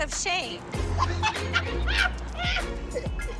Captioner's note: laughing